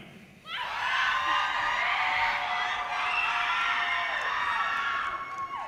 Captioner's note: audience cheers and applause